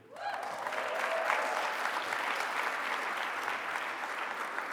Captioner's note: attendees cheering